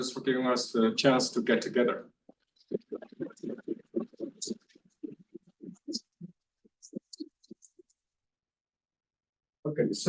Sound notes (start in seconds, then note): 2.7 everyone applauds